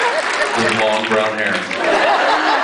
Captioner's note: laughs, cheers, applauds; applauds; laughs